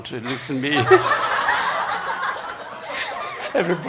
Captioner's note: laughter